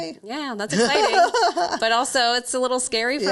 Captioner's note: laughing